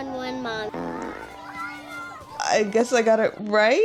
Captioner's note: fart